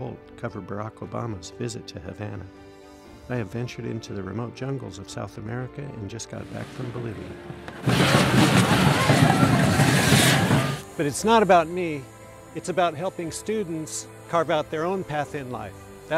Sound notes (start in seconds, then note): 7.2 explosive fireworks